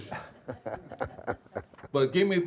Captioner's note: laughing